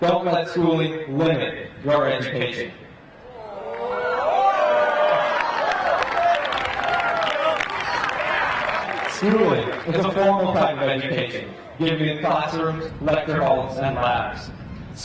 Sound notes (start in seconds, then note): 3.3 crowd cheering; 3.6 crowd applauding